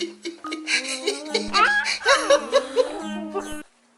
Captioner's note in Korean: 아빠 민망해하는 웃음소리